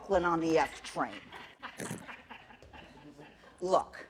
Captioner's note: laughter